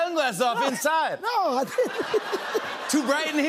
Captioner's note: laughter